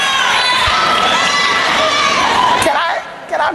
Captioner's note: cheering and Applause